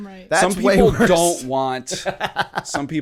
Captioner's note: laughter